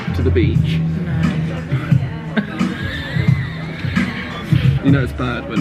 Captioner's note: laughing